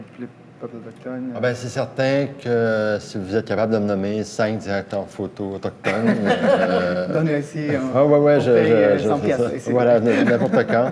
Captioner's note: laughs